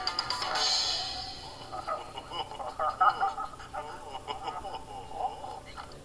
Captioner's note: both Chuckle